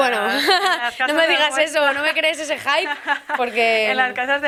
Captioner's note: laughs